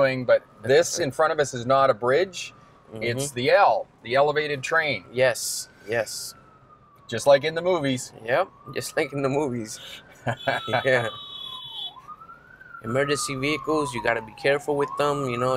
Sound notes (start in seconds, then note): 9.7 horns honking; 9.8 both laugh; 10.8 sirens blaring